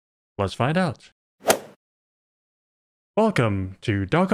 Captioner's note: golf ball hit sound